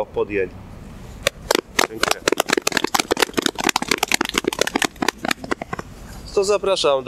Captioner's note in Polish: oklaski